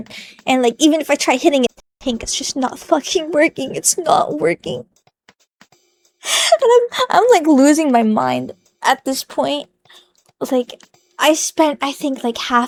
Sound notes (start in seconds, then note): 6.2 inhale